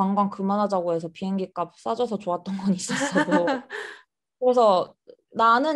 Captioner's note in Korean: 웃음